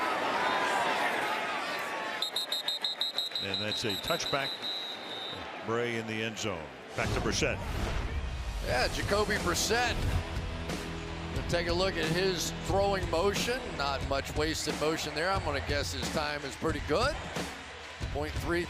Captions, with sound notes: [whistle] And that's a touchback. Bray in the end zone. Back to Brissett. Yeah, Jacoby Brissett. Take a look at his throwing motion. Not much wasted motion there. I'm going to guess his time is pretty good.